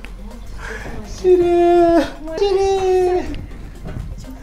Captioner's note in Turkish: ağlar